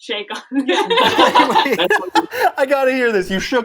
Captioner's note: laughter